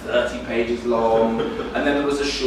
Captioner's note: audience laughing